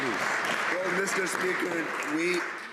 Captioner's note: some Applause